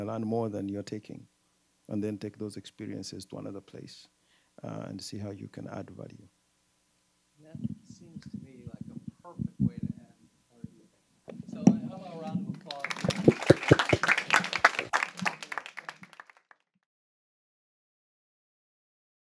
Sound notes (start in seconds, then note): 12.5 clapping